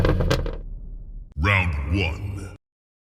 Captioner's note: deep voice